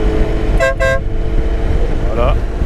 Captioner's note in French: klaxon